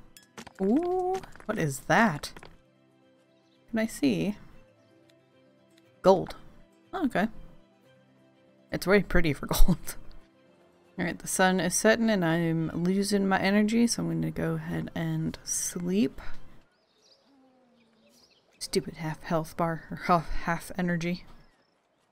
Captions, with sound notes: Oh what is that?! Can I see? Gold! Okay... It's very pretty for gold *laughs* All right the sun is setting and I'm losing my energy so I'm going to go ahead and sleep. Stupid half health bar er hal- half energy!